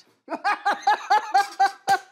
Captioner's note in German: Lautes Lachen